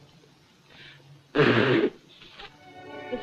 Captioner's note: blows nose